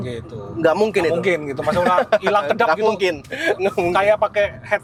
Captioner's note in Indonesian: tertawa